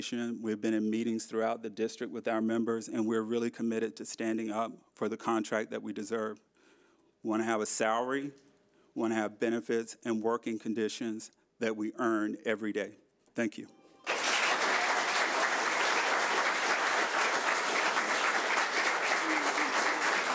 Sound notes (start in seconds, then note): 14.0 audience applauding